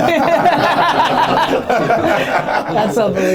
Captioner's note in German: Lachen